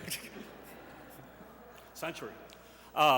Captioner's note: laughter